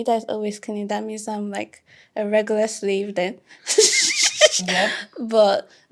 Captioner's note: laughing